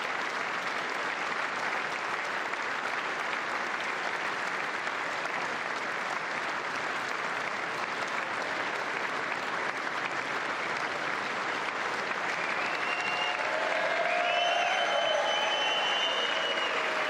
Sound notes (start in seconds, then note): 2.9 applause